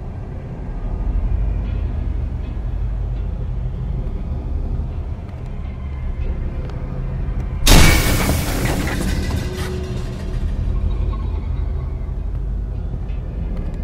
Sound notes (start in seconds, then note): 7.6 doors burst open with a loud clank